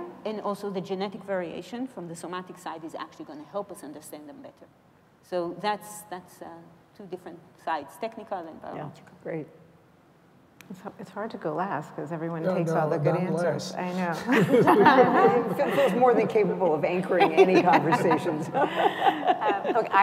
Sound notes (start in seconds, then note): 14.2 laughter